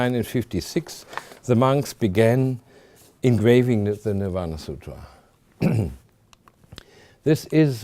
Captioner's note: clears throat